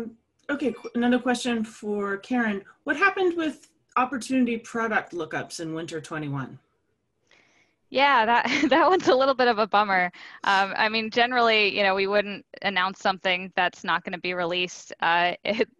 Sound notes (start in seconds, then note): 8.5 laugh